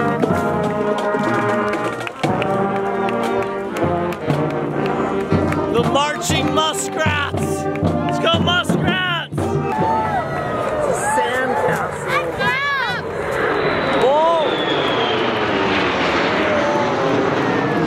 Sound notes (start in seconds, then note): 13.9 planes whistle